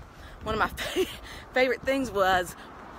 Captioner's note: giggles